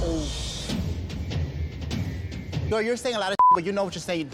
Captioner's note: beep